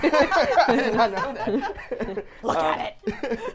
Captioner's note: laughing